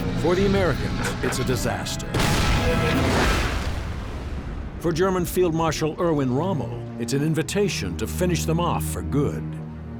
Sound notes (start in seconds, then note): 2.1 tank turret firing; 2.1 shell exploding